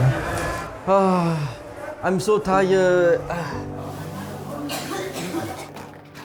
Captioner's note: sigh